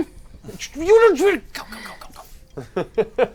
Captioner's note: frustrated noise